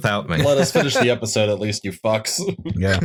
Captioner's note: laughter